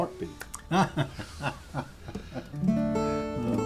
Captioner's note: laughter